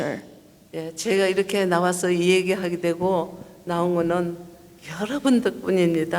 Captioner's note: speaking foreign language